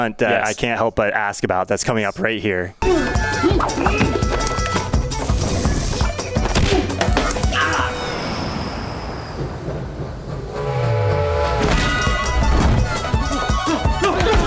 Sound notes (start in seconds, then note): 2.8 intense music; 7.0 music dies down; 9.4 train chugging; 10.4 train hooting; 11.7 intense music